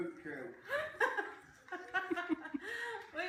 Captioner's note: laughter behind camera